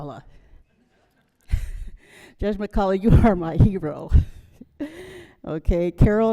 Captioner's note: chuckles